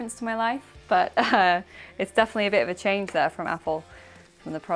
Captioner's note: laughs